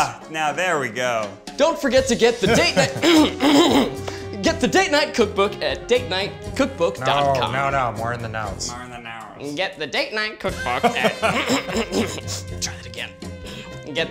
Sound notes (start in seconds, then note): 2.6 clears throat; 11.4 clears throat